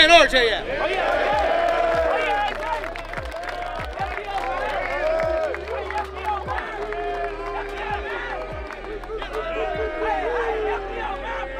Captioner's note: cheering